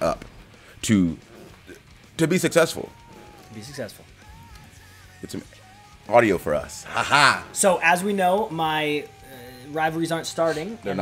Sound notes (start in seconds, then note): 6.7 laugh